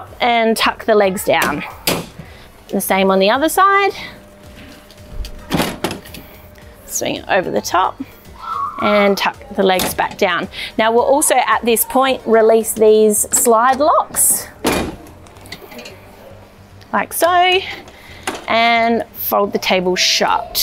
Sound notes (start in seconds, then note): 5.1 u-bar squeaks; 14.9 slide lock squeaks